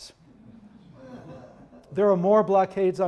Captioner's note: audience chuckling